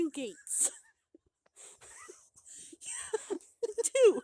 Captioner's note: laughter